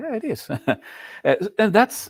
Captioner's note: laughs